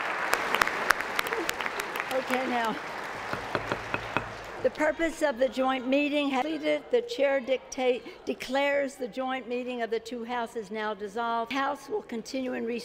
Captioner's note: applause